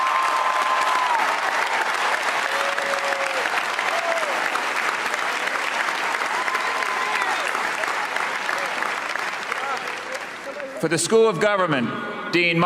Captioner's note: cheers and applause